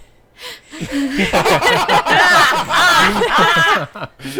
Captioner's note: everyone laughing